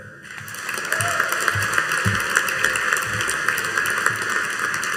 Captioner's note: audience applauding